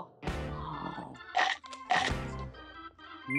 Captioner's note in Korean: 아사삭~